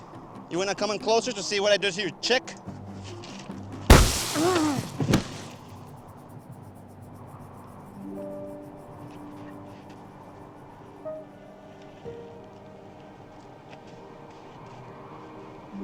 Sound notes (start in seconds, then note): 3.9 bang; 8.9 gentle music